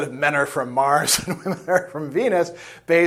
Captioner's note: laughs